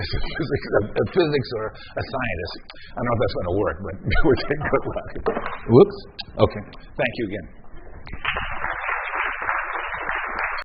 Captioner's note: applause